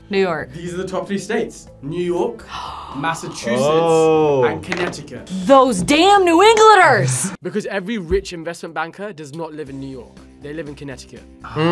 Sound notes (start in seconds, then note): 2.4 gasps